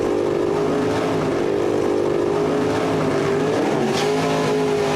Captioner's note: car engine